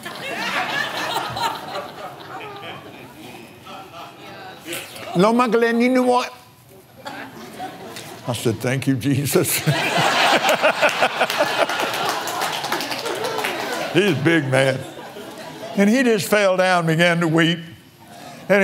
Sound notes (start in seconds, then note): 0.2 foreign language; 5.2 laughs; 8.4 foreign language; 14.0 laughs